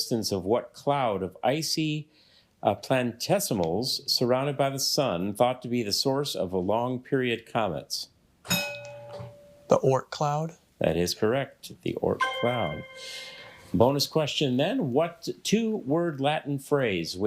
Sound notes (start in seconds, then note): 8.5 bell rings; 12.2 bell dings